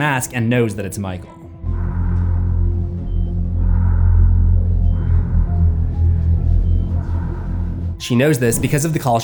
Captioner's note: breathing